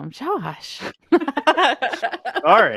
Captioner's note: laughter